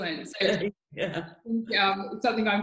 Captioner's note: laughs